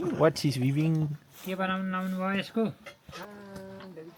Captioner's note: speaking Nepali